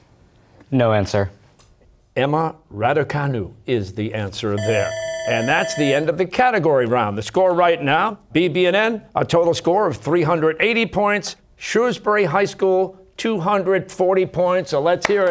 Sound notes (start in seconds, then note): 4.6 bell ringing